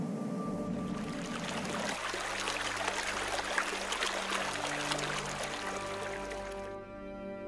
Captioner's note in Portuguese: som de água correndo